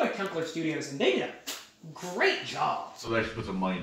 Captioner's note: mwah